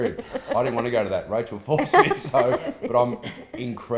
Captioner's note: laughing